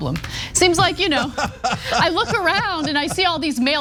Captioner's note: laugh